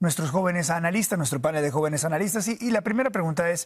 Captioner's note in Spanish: HABLA EN INGLéS